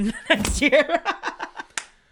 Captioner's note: laughs